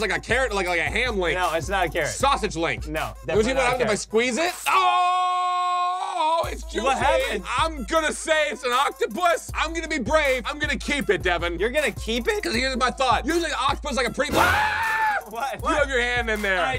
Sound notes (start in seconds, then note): 4.6 screams; 14.3 screams